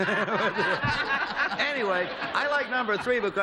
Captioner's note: laughter